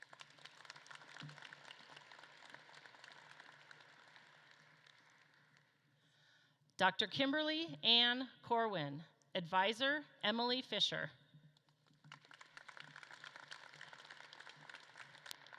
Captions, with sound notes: (audience claps) Dr. Kimberley Anne Corwin, advisor, Emily Fischer. (audience claps)